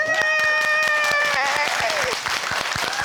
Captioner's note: all applauding and cheering